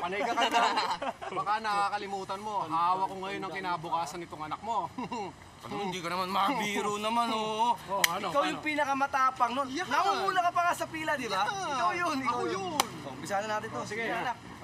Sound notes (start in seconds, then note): 0.1 laughing; 4.7 chuckles